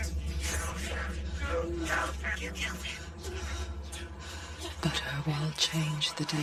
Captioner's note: voices chattering